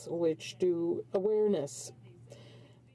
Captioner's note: speaking in French